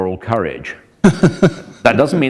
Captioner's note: chuckle